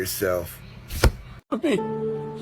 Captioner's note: thwump